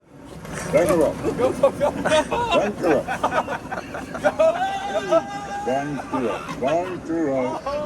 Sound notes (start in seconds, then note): 1.3 laughter